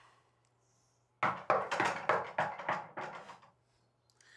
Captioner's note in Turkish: Kapıya vuruluyor